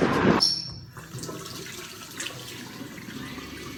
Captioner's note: water splashing